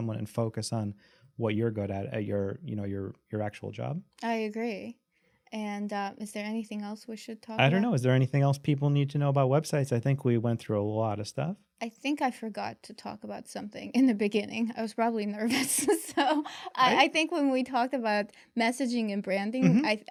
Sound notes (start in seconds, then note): 15.4 laughs